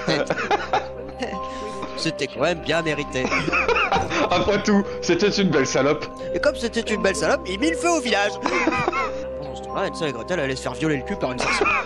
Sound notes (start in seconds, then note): 0.0 laughs; 8.0 laughs; 11.3 laughs